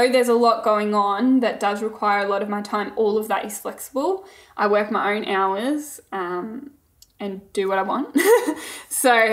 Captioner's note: laughing